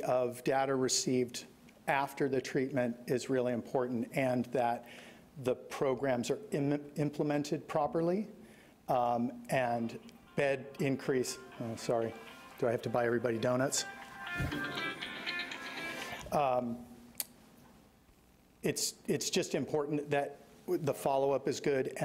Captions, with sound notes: of data received after the treatment is really important, and that the programs are implemented properly. Bed increase, (phone rings) sorry. Do I have to buy everybody doughnuts? It's just important that the followup is good